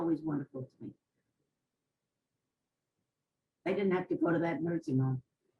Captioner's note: pauses for 3 seconds